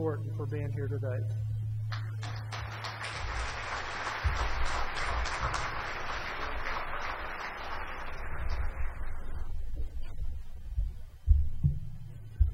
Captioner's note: applause